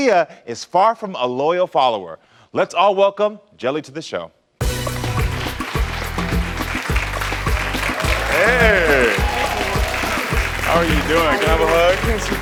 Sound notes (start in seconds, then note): 4.6 upbeat music; 4.7 audience applauding